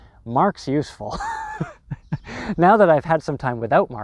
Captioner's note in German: lacht